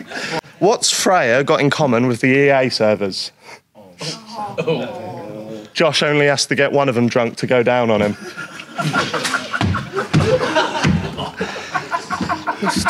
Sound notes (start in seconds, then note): 4.0 Sidemen groan; 8.0 Sidemen laugh; 9.4 man stomping